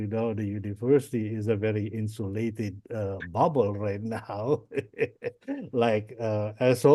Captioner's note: laughs